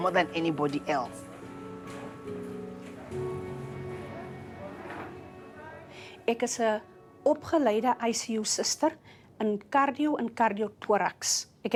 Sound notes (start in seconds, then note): 3.0 indistinct chatter